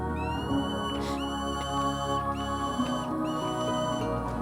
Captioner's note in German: Falke kreischt